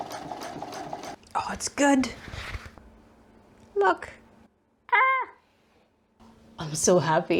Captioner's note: sewing machine noises; gremliny noise of happies